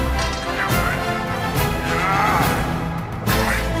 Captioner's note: sword scrape